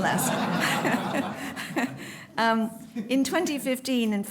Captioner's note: laughter